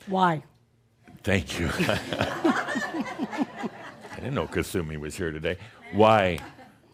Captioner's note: laughter